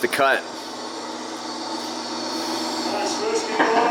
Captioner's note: machines whirring